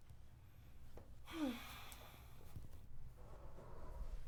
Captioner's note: Ashley sighs